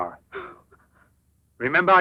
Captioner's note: gasps